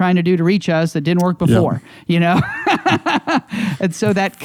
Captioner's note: laughs